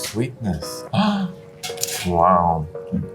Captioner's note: gasps